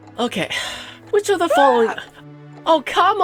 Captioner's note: scream sound effect